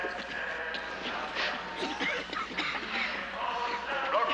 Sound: many women coughing

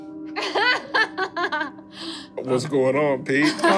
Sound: laughing

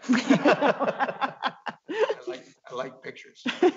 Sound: laughs

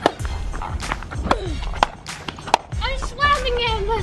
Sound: loud thwacks

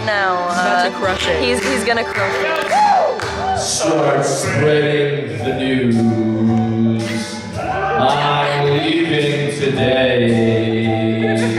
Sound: laughter

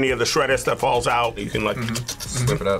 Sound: slurps

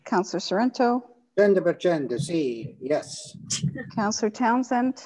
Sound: speaking in foreign language

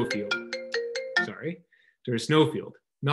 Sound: phone rings

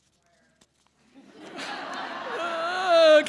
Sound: laughing

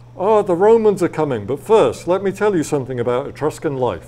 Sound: none

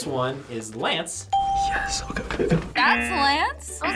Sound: ding

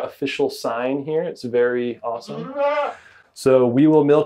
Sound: goat brays

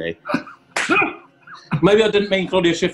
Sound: horne laughs; key claps

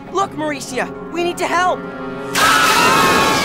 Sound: screaming

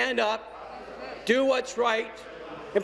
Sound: none

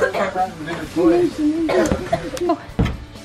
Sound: coughing

